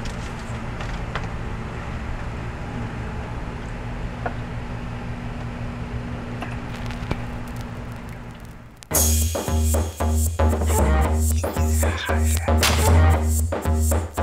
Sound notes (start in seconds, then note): 6.6 record player starts; 8.8 house music playing